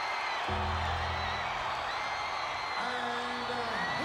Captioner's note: bell tolls